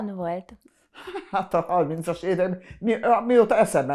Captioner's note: laughing